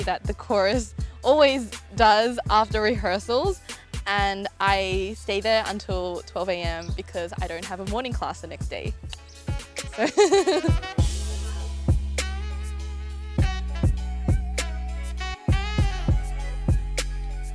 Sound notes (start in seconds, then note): 10.0 laughs; 13.4 smooth jazz music